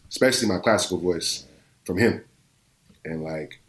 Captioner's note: none